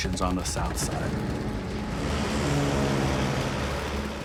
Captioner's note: airplanes whirring